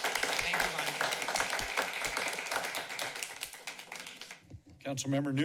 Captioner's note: applauding